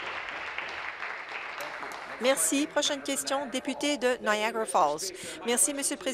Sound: applause

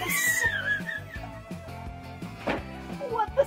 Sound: laughter

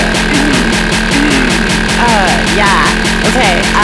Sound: clears throat

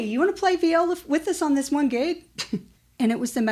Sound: laughs

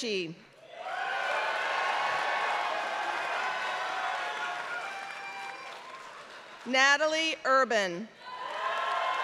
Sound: applause; applause

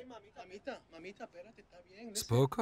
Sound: speaking in a foreign language; speaking in a foreign language

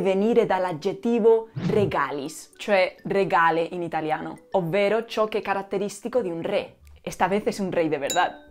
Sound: in Spanish

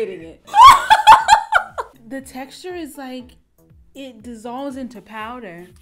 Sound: laughs

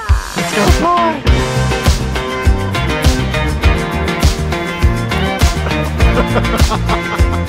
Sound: happy music; laughing

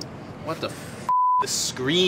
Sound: beeping

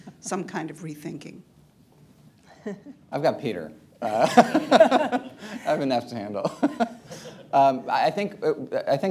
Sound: laughs, laughter; laughs

